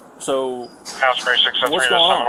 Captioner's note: radio chatter